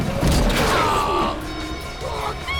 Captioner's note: moan; sing